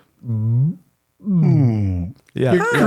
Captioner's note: whale sounds